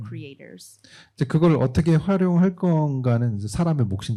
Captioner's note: speaking korean